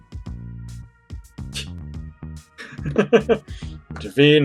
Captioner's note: laughs